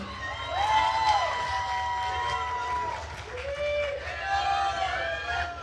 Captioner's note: attendees cheering and applauding